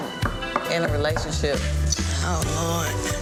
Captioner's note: knocking at door